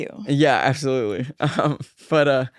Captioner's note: laughs